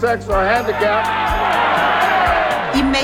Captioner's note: crowd cheering